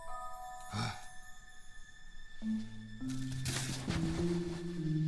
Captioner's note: magical music; Merrill grunts